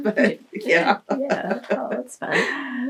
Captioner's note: laughs